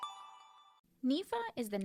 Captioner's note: chime